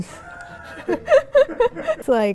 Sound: laughs

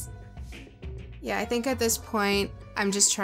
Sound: none

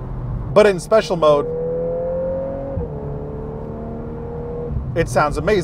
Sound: vehicle engine roaring

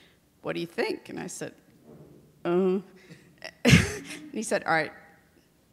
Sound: laughs

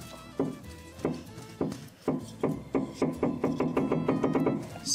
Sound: gravel knocking

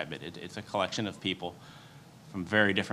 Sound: none

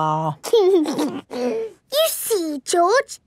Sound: giggles

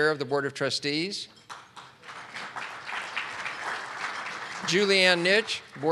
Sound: audience clapping

